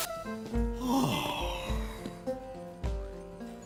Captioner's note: yawns